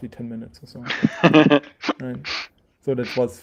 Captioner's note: laughing